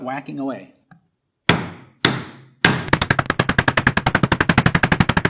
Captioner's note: hammer loudly banging